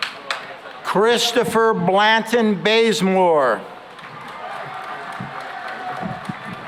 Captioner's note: cheering and applause